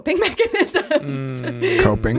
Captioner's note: laughing